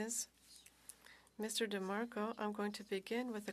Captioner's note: speaking French